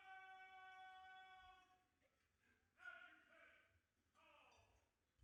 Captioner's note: officer calling out commands to sound adjutant's call